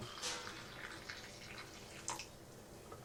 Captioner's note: coffee trickles